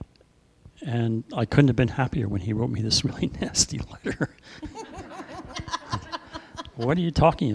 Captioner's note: laughter